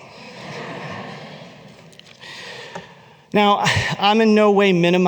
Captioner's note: laughter